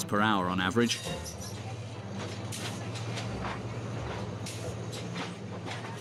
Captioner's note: train tires screeching